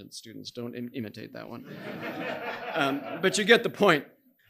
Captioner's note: audience laughing